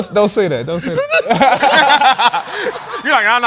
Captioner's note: laughter